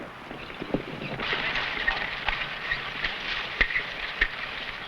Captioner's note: horse hooves pattering